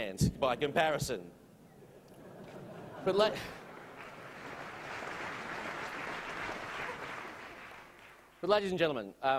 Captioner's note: laughter and Applause